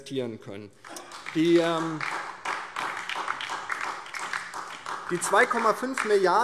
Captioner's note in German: Beifall